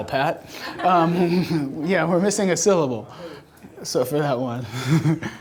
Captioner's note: laughing